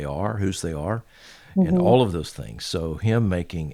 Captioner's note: hums